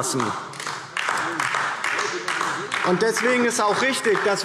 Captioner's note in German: Beifall DIE LINKE